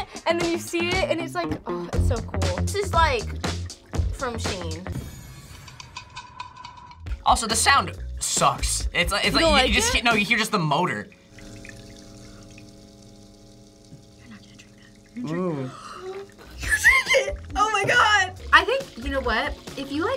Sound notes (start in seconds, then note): 11.4 humidifier buzzes; 15.3 gasps